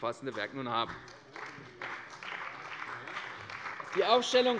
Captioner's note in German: Beifall bei der CDU und dem BÜNDNIS 90/DIE GRÜNEN